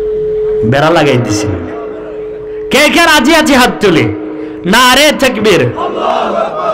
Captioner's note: chant of 'God is Great'